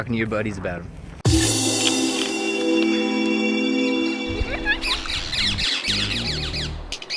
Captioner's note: parrots chirping in background; upbeat music